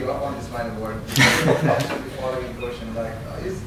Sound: laughter

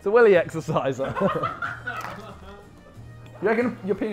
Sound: Sidemen laughing

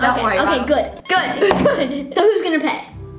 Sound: duck squeaks

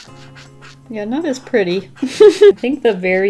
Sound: laughs

